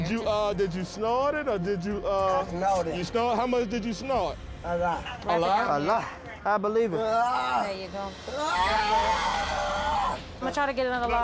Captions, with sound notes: Did you snort it, or did you-- How much did you snort? A lot? I believe her. There you go. [screaming] I'm going to try to get another line,